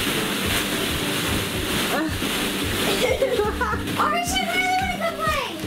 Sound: plastic balls rustle

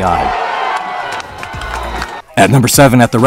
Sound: crowd cheering

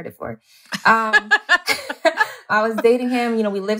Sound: laughter

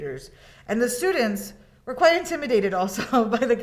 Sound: chuckles

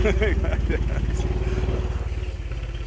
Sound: laughter

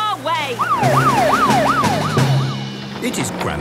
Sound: siren wailing

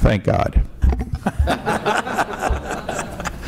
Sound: laughter

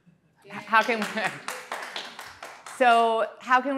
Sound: audience clapping

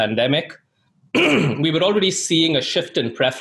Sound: clears throat

